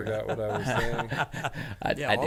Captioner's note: men laughing